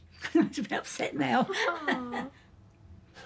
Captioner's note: laughing